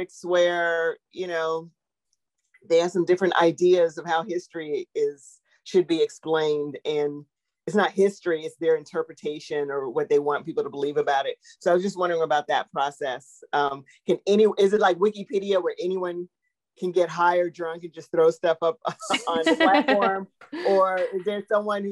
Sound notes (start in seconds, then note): 18.8 laughs